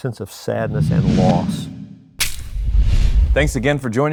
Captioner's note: graphics whoosh